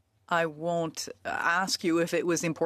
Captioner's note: speaking French